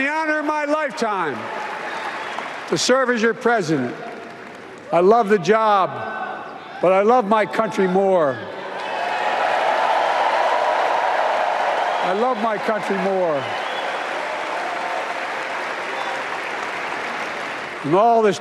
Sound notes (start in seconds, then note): 6.6 applause